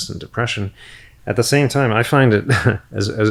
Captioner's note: chuckles